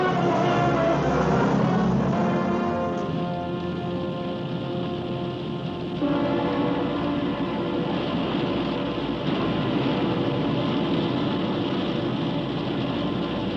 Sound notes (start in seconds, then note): 3.0 engine roars